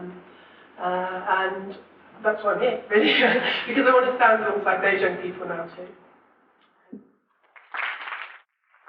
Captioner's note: audience applause